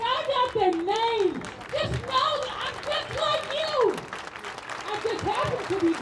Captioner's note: audience claps and cheers